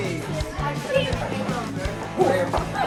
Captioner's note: indistinct chatter